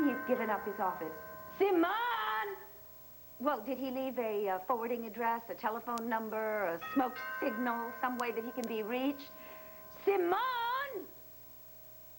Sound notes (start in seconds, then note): 0.0 ring